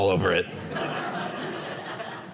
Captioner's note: audience laughing